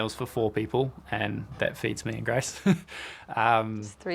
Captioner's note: chuckles